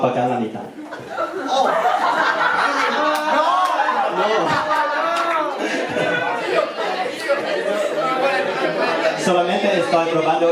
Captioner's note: laughing